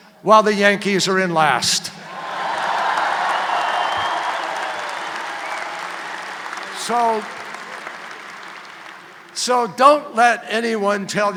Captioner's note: applause